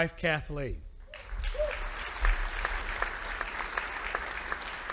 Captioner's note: audience applauding